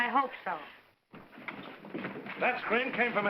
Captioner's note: doors burst open